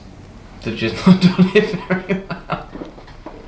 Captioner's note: laughs